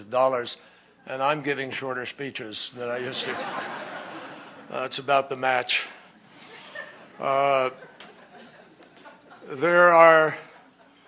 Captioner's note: laughter